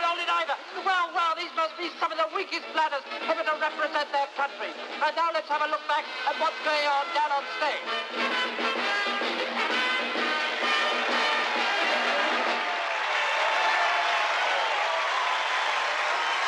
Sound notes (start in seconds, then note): 12.2 crowd cheering